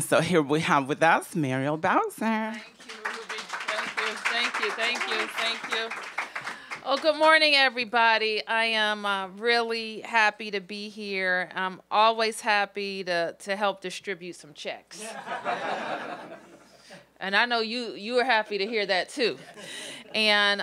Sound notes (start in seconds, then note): 6.9 applause; 15.0 laughter